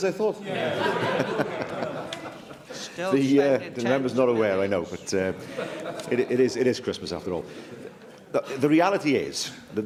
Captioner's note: laughter